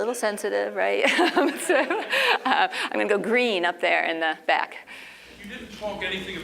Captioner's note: laugh